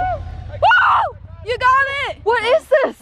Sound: celebratory screams

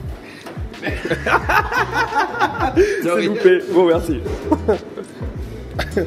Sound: laughs

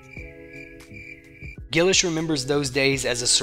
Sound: crickets

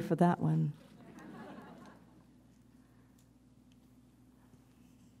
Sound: audience chuckles

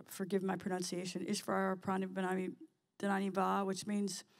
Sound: speaking in sanskrit

